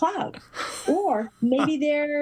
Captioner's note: laugh